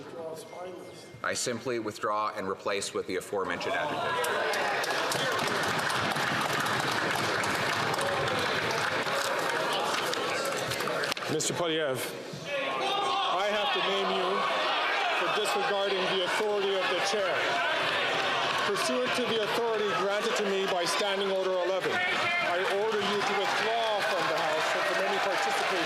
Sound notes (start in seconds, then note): 11.5 some Applause